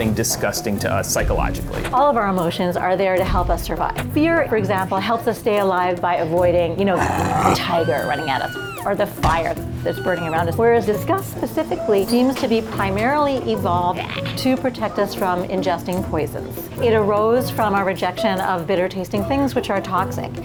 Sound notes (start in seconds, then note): 6.9 tiger growling; 7.0 woman screaming